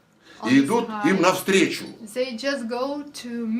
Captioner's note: foreign language